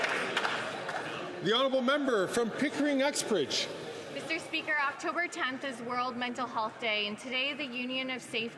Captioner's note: some Applause